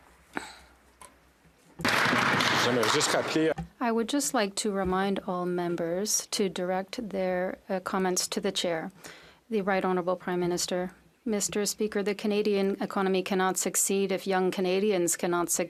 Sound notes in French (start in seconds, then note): 2.3 applaudissements